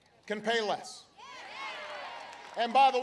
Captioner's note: applause